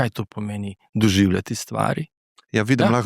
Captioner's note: clears throat